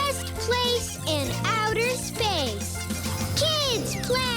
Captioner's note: squeaking